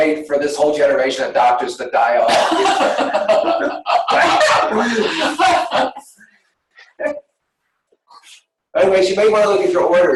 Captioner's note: laughter